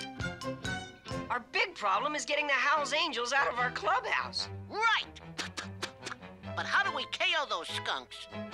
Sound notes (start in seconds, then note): 5.3 rubbing gloves